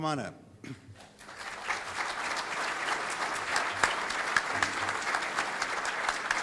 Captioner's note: audience applauding